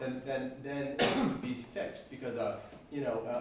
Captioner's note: coughing drowns out speaker